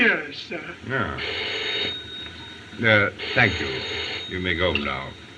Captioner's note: phone Ringing